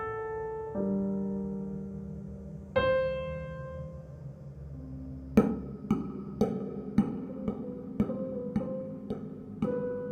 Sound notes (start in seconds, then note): 5.8 sound of metronome swinging